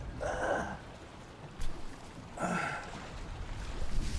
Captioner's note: Kent coughing; Kent groaning